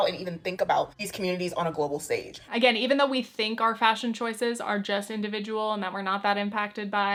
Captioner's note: none